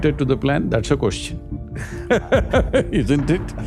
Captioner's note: laughs